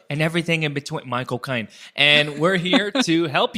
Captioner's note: British accent